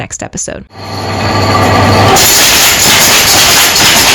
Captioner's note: machine Noise -- Loom